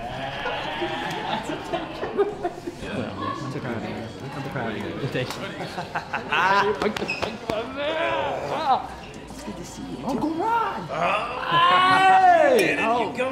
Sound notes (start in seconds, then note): 1.9 laughing; 5.5 chuckling